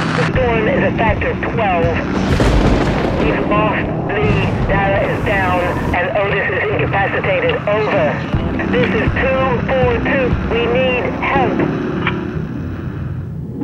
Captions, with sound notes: The storm is a factor 12 *Lightning noises* We've lost Li, Dara is down, and Otis is incapacitated. over this is 242 we need help *click*